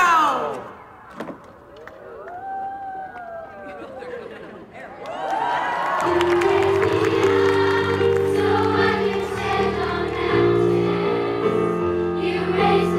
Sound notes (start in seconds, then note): 4.8 cheering